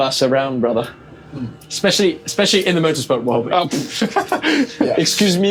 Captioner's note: laughter